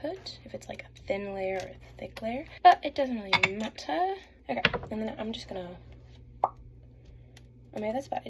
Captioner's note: pop